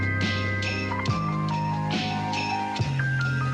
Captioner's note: none